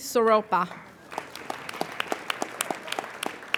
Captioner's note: applauding